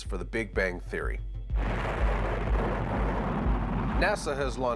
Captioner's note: rockets firing